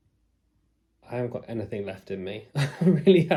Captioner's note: laughs